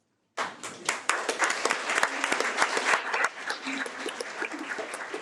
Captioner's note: audience applauding